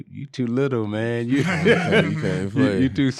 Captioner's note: laughing